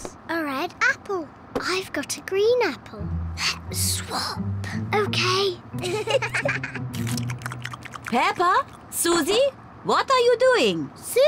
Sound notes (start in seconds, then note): 3.6 whispering; 5.8 both giggle